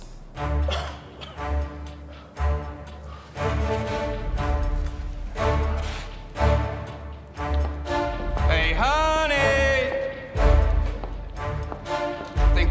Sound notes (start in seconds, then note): 0.4 coughs